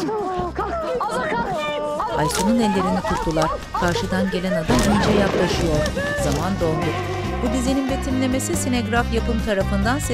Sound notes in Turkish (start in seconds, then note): 4.6 Gök gürültüsü sesi; 4.7 Bağırma sesleri